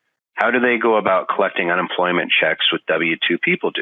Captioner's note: none